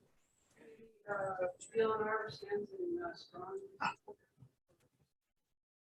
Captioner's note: woman speaking in background